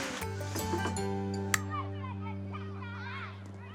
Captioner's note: click!